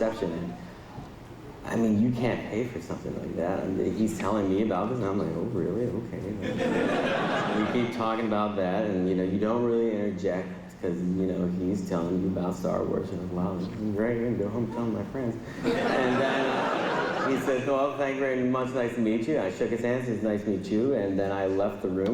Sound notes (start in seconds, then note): 6.4 laughter; 15.5 laughter